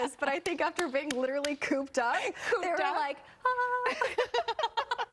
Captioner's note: laughter